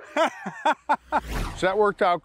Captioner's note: laughs